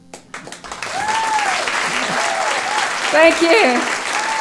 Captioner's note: applause